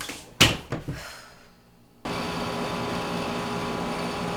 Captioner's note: Zooey sighs